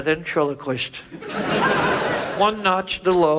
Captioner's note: audience laughs